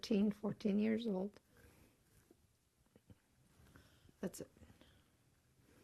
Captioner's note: pauses for 3 seconds